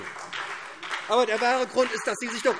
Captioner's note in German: Beifall SPD